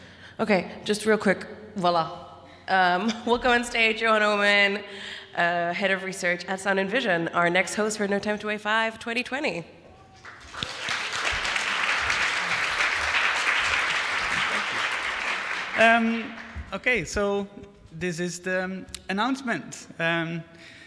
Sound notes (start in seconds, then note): 12.1 applause